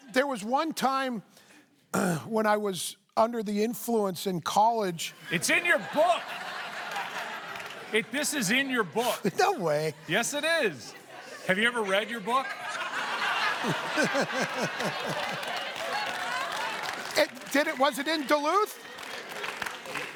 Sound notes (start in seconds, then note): 7.3 laughter; 13.5 laughter; 16.5 laughs